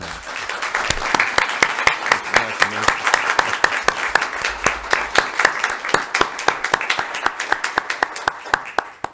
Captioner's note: applause